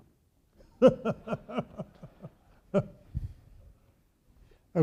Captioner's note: audience laughing